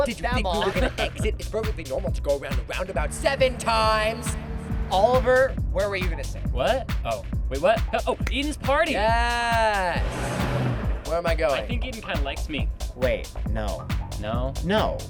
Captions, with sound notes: -Don’t flip them off. -Did you think we were going to exit? It's perfectly normal to go around a roundabout seven times! Oliver, where were you gonna say? What? Oh, wait what? Oh, Eden's party! Yes. (car revving) Where am I going? I think Eden kind of likes me. Wait, no, no, no.